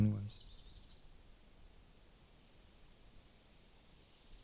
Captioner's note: birds chirping